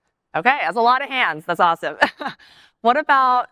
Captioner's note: laughs